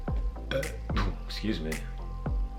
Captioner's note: burping